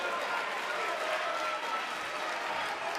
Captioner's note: cheers & applause